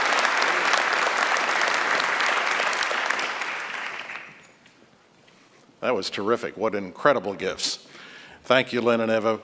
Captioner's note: applause